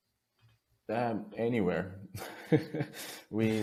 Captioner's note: chuckles softly